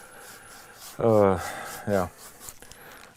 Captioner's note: none